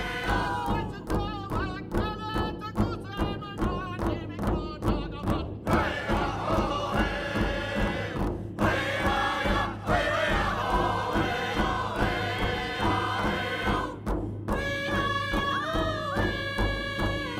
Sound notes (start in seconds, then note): none